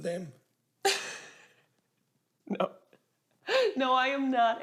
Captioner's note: Ava laughs